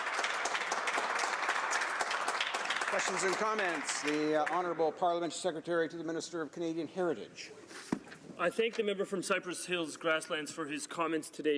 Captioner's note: applause